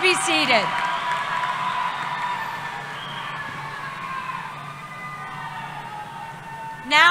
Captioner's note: cheering